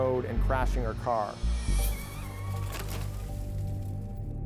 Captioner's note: tires screech